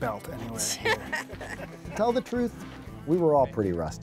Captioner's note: laugh